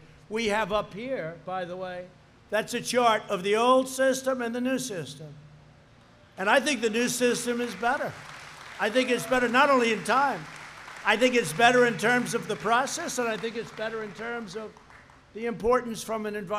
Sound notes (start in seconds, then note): 6.6 applause